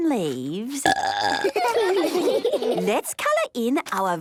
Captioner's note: burping; children giggling